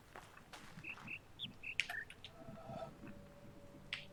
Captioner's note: bird chirps five notes